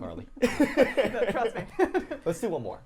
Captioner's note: laughing